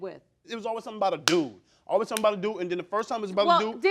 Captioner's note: smacking hands